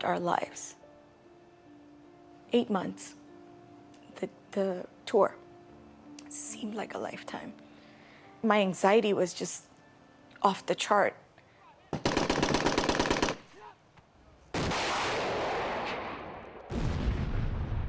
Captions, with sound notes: lives. Eight months. The the tour. Seemed like a lifetime. My anxiety was just off the chart. [gunshots]